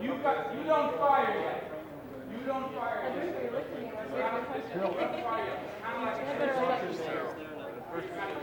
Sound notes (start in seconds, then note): 4.1 crowd chattering